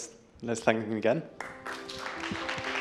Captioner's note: applause